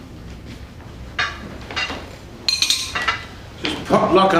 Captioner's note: plates clinking